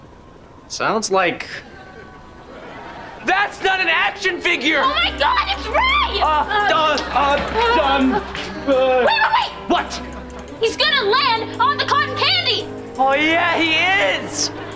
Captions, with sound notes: Sounds like… - That’s not an action figure! - Oh my God! It’s Ray! [stuttering] - W-w-wait! - What? - He’s gonna land on the cotton candy! - Oh yeah, he is!